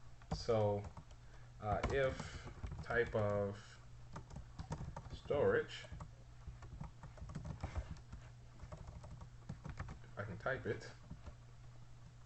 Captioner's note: typing sounds